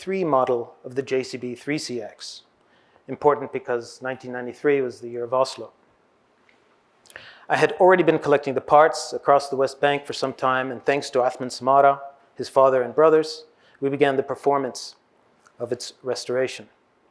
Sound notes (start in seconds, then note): 11.6 hebrew